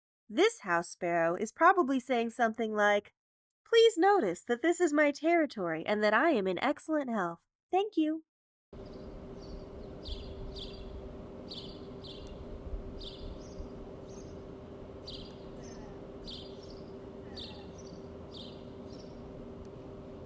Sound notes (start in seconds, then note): 8.0 complex series of House Sparrow tweets